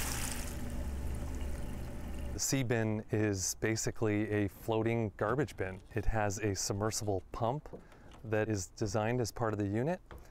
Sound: splashing

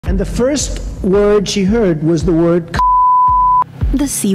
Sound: beep

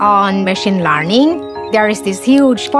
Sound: computer pinging

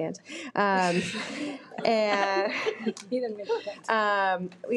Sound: both chuckles

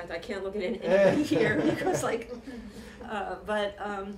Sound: laughter

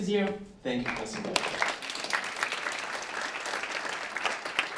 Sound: applause

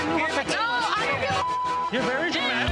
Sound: beep

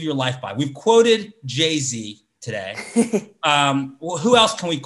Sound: laughs

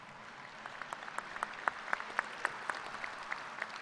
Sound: applause

